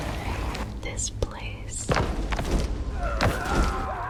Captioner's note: groaning; screaming